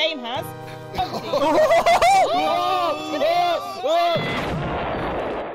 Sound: crowd; screaming

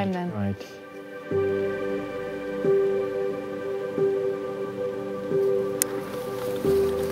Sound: rhythmic pulsing

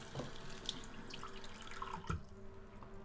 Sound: filling up cup; water shuts off

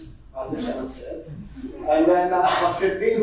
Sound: audience chuckling

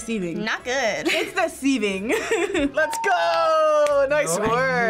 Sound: laughs

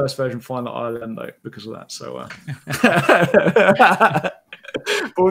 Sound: laughs

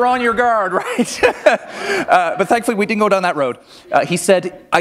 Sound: laughter

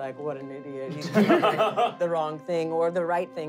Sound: laughing

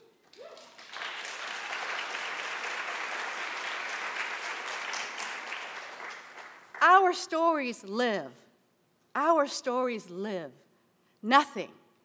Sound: applause

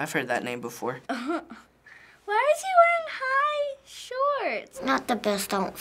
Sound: chuckles

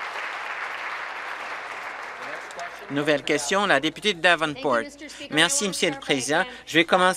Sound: applause

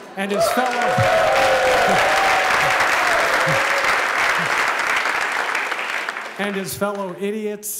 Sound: applause

